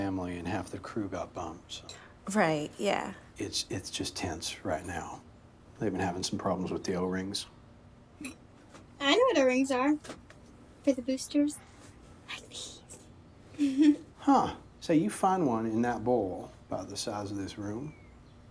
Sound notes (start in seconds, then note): 12.0 whispers; 13.5 giggles